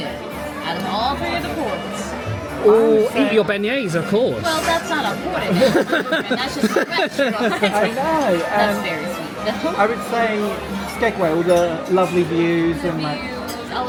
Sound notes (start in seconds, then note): 5.5 laughing